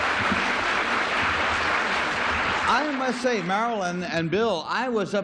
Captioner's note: applause